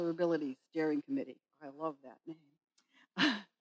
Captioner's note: chuckling